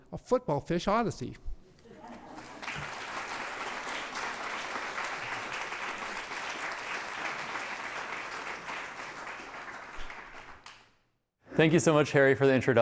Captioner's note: applause